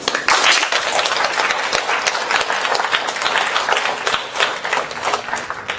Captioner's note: applause